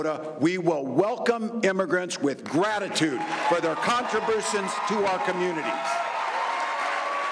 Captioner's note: applause